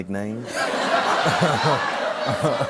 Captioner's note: laughter